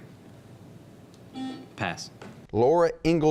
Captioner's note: buzzing